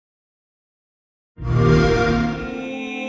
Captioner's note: xbox sound